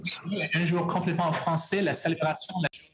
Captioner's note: speaking French